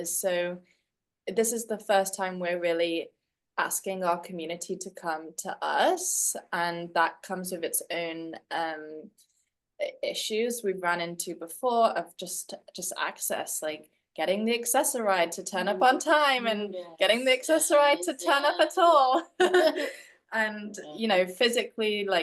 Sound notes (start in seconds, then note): 19.1 laughs